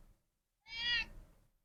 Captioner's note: cat meow